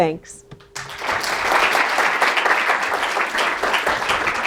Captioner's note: audience applauding